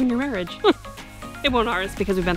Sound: anxious giggle

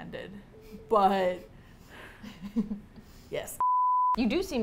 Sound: both giggle

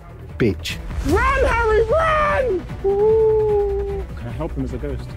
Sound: ghost noise

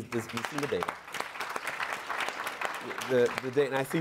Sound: applause

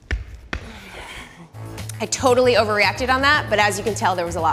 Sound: sighs

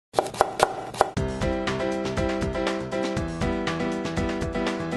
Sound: chopping

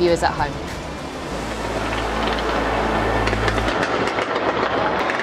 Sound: fireworks popping

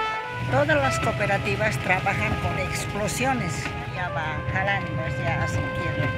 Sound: speaking in foreign language

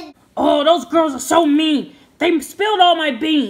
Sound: voiceover

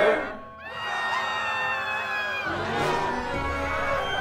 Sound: screaming; dramatic music

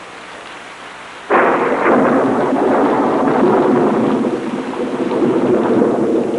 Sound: thunder rumbling

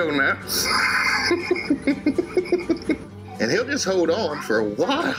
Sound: laughing

